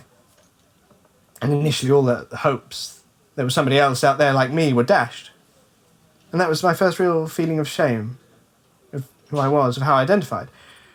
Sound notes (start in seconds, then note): none